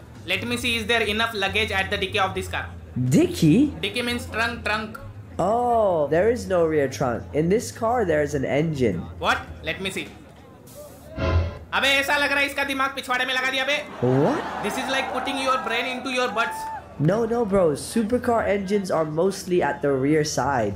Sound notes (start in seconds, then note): 11.7 non-english speech; 13.6 laughter